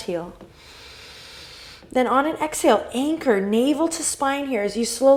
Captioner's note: deep inhale